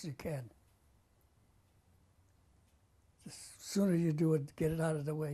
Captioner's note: pauses for 3 seconds